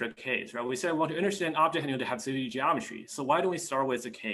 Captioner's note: foreign language